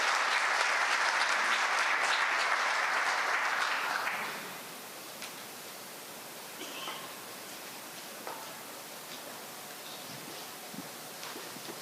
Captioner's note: applause